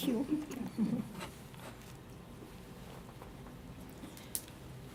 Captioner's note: chuckling